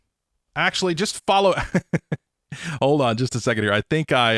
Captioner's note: chuckling